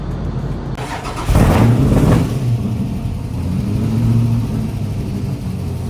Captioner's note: engine starting and revving